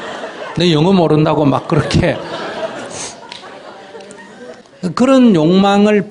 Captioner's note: audience Laughter